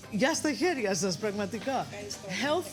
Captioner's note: speaking greek